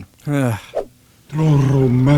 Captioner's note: sigh